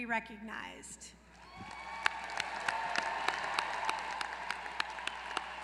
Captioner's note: applause